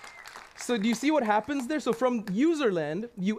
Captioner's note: applause